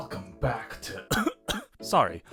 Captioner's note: chokes